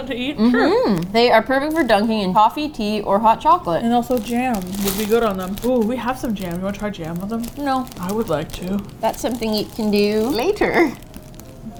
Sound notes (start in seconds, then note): 8.5 cheerfully